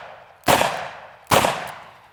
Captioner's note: gun shooting